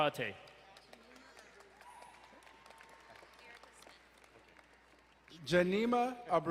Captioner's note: crowd cheering and applauding